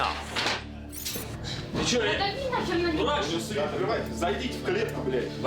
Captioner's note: speaking Russian